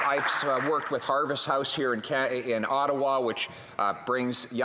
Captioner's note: applause